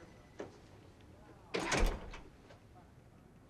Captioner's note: door open close